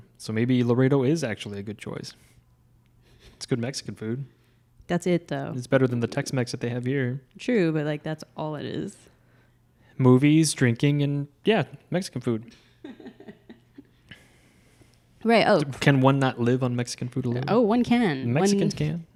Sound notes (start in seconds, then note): 12.8 laughs